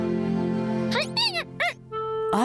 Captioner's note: squeaking